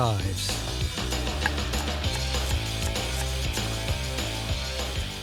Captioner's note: chopping